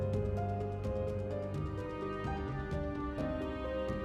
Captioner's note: none